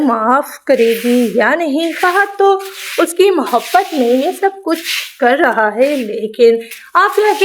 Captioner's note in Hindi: नाक से की जाने वाली आवाज़